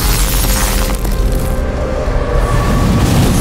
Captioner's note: ice crystals crackling; boulders whoosh